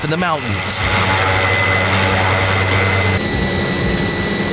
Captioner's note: engine roars